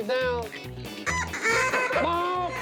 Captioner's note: duck calls